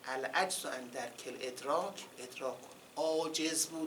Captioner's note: quoting Arabic